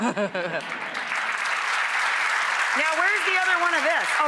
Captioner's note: applause